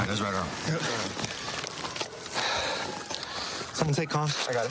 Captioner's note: sirens blaring